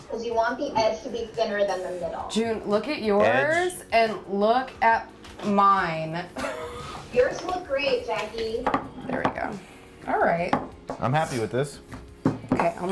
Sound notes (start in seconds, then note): 6.3 laughs